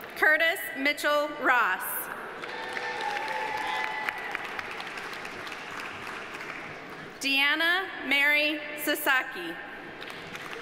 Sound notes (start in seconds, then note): 2.3 audience applauding; 2.4 audience cheering